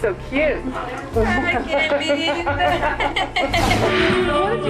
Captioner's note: laughs